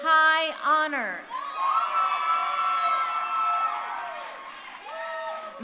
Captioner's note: crowd cheering